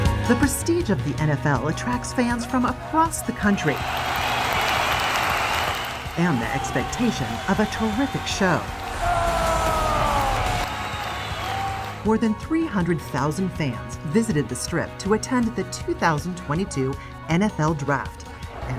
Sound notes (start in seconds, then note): 3.6 crowd cheering; 9.1 cheering continues